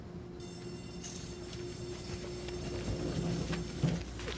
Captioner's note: train doors close; bell rings